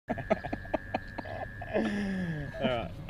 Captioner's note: laughing